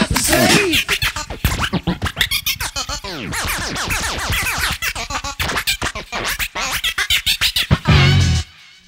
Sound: record scratching

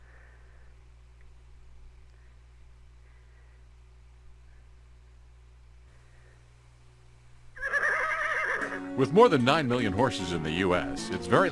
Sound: horse whinnies

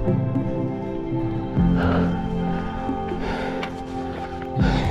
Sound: panting

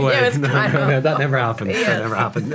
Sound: chuckling

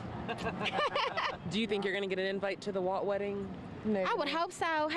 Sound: laughter

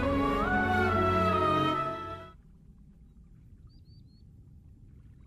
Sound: silence

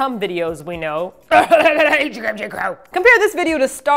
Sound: cough

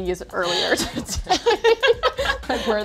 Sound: laughing

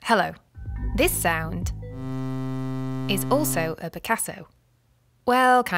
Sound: buzzzzz

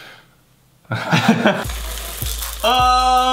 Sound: laughing

